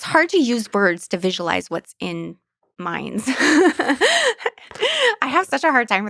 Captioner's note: laughs